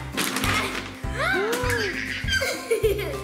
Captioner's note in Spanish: jadeos; chillidos